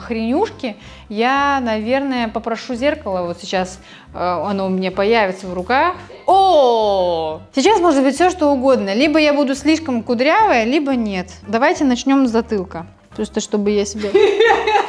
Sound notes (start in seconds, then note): 14.0 laughing